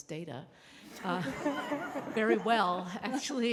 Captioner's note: laughter